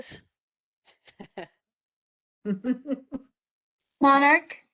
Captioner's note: laugh